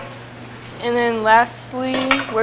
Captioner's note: none